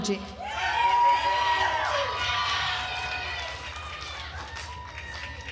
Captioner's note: attendees cheering and applauding